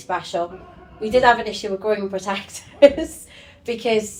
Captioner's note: laughs